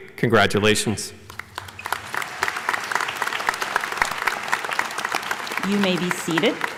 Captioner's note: applause